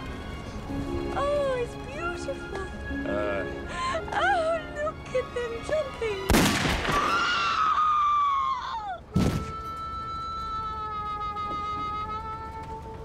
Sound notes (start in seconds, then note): 6.3 gunshot; 6.9 screams